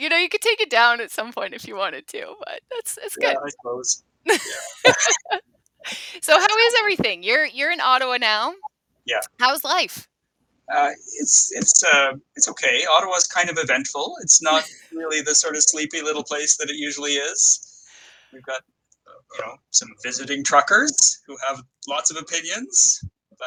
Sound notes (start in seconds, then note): 4.2 both laughing